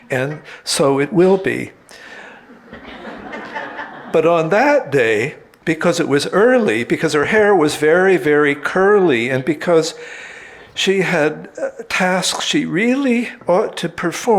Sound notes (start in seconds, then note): 2.2 audience laughing